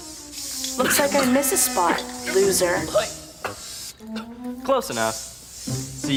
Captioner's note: coughing